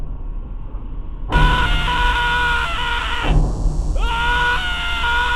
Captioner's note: upbeat tensed beat; man screaming